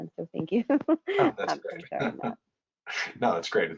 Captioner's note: laugh